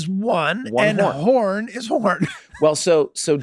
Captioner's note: laughing